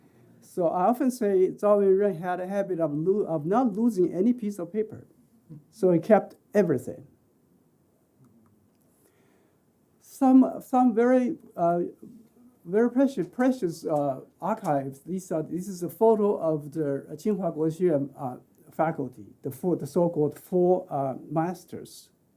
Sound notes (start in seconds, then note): 17.5 speaking chinese